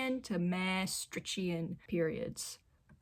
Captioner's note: none